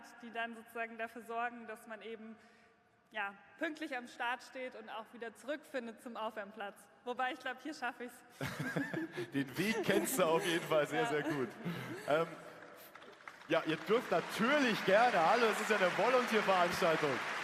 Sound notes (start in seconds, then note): 11.6 applause